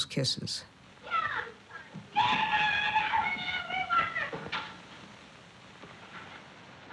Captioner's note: yelling